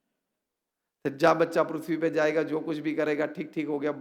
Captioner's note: non-english speech